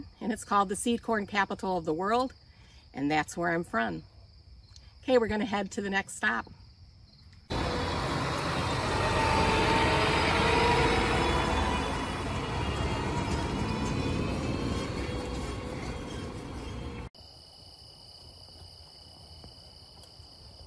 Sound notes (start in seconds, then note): 7.5 machinery roaring; 17.4 crickets chirping